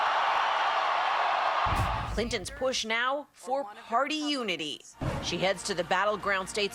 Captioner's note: cheers and applause